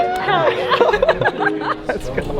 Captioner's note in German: freudiges Lachen